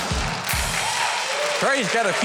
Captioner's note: audience claps